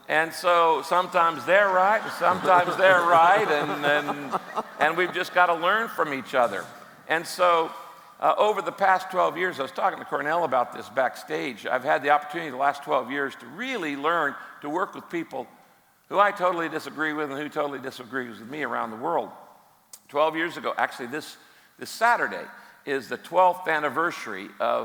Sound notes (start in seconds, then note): 3.4 crowd laughing